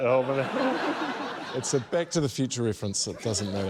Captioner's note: laughter